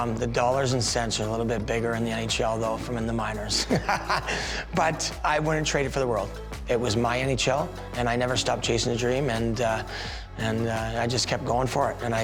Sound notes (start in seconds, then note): 3.6 laughs